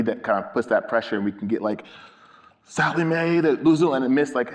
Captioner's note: speaks in foreign language